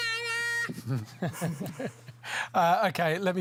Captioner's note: chuckles